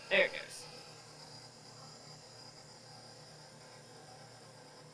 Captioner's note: mixer whirring